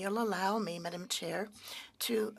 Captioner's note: speaking French